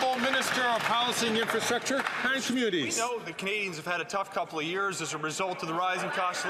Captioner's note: some Applause